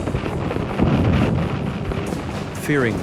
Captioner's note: bomb exploding